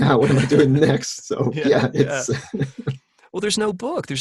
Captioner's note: laughing